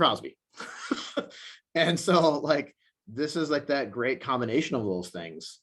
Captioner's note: laughs